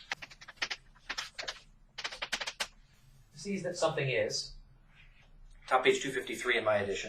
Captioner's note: writing on chalkboard sounds